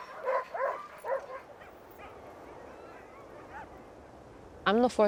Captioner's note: wind whipping